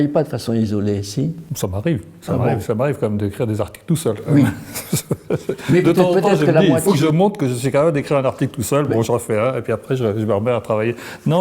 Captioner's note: laughs